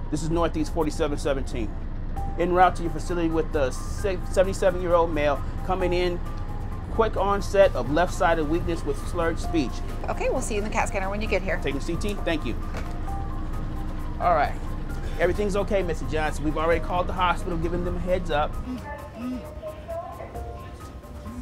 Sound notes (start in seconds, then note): 18.3 phones buzz